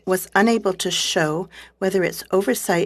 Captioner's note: speaking French